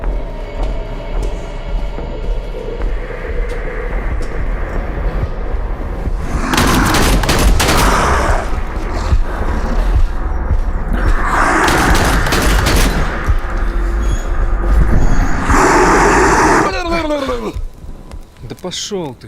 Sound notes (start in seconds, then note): 7.7 creature roars